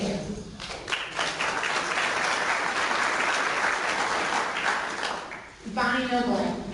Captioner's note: clapping